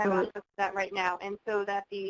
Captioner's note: voiceover